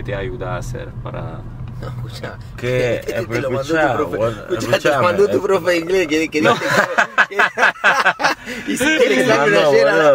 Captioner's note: laughs